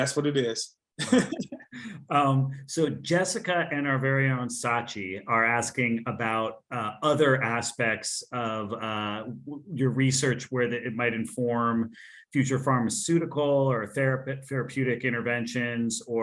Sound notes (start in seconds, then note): 1.0 speakers laughing